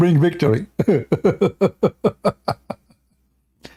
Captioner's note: Ketawa